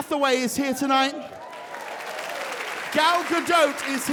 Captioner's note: audience cheers and applauds